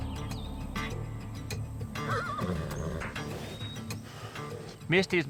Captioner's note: horse neighs